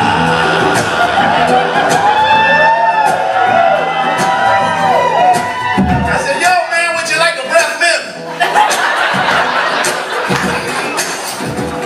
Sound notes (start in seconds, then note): 0.0 crowd cheering; 0.8 tuvan throat singing; 8.2 laughter